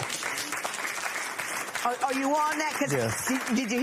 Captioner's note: applause